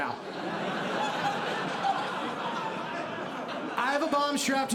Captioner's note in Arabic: ضحك